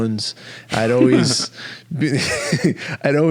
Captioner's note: laughing